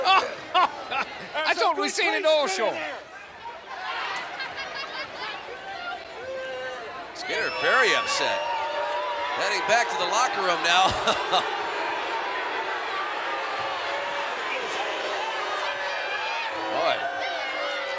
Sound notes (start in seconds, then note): 0.0 laughs; 10.5 laughs; 12.2 crowd booing